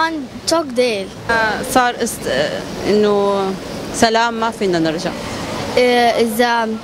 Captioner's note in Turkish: arapça konuşuyor